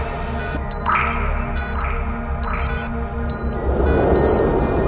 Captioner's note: monitors beeping